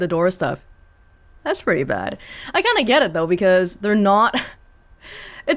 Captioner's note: scoffs